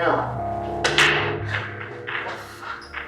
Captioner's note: loud clank